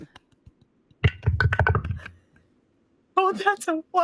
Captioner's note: dice clanks